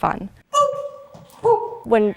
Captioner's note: boop! Boop!